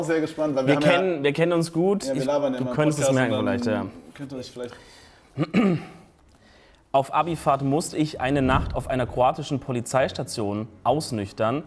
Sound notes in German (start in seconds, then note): 5.3 Räuspern